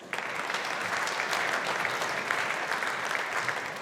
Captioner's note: audience applauding